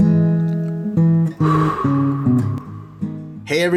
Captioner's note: long exhalation